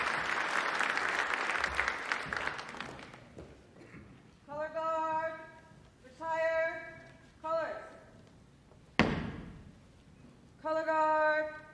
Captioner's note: applause